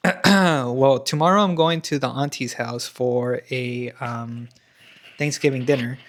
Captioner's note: clears throat